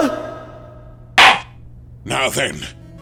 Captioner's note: gavel slams!